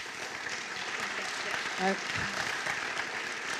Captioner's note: applause